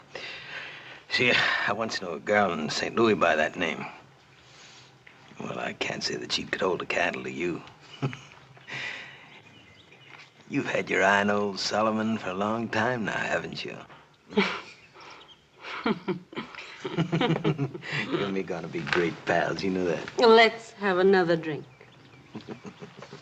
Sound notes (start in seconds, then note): 7.7 chuckles; 15.5 chuckles; 15.5 chuckling together